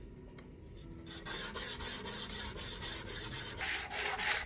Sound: scraping

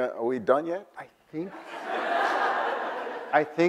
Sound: audience laughs

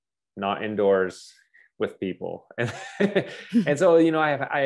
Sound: laughs

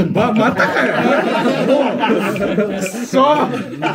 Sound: laughing

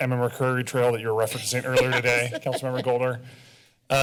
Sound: laughter

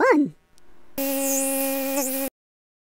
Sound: buzz

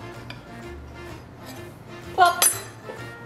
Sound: none

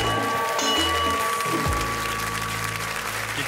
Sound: bell rings

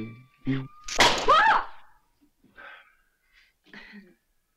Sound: light cracking

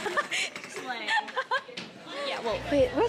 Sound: laughs

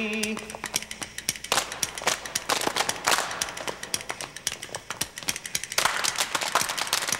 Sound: dancers thumping rhythmically; dancers clapping

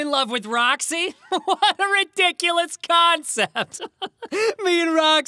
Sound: laughs

